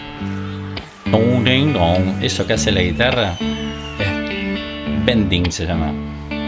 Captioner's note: town ding dong